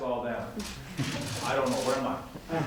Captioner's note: laughter